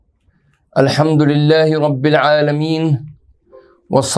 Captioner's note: arabic